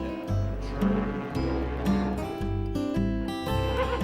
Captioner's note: steam boat horn blows; horse whinnies